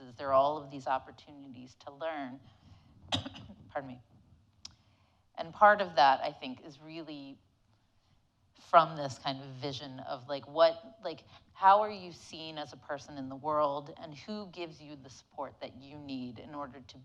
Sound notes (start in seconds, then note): 3.1 coughing